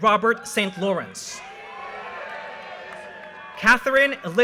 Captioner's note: audience cheers and applause